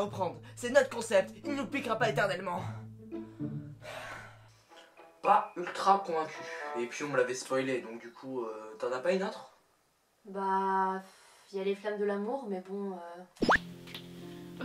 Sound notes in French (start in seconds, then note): 3.8 soupirs